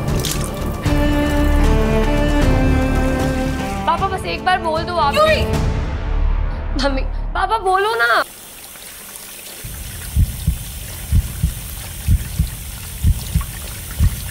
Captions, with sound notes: - Dad, just tell me... - Yuvi! Mom! Dad, please answer me. [heart beating]